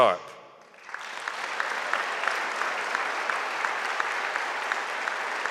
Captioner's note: audience applauding